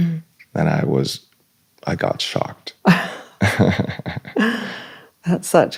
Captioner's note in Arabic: ضحك